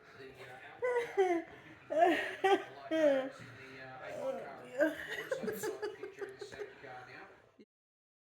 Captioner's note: crying with laughter